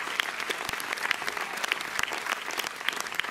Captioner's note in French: Applaudissements nourris